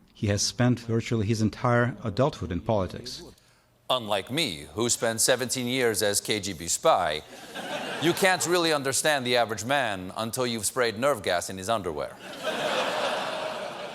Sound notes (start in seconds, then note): 9.7 as putin